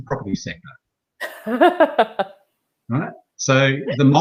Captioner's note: laughing